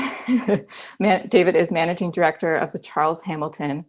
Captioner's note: laughs